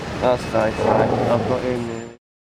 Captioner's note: Brigadier growls